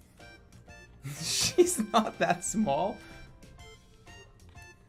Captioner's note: laughing